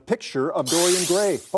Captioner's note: buzzer sounds